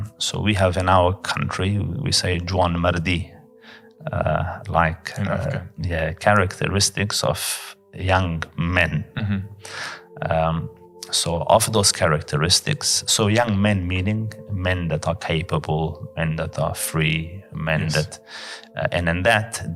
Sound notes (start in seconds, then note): 3.2 Arabic